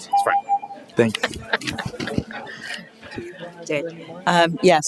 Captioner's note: laughter